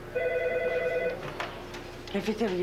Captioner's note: Le téléphone sonne